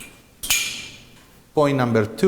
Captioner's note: metal clanks